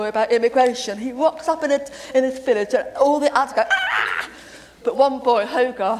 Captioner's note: scream